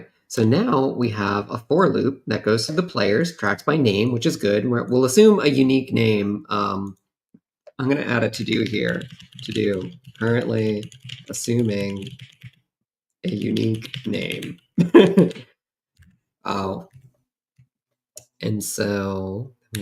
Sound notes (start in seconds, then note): 14.8 chuckles